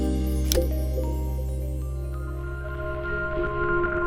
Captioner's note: tone dings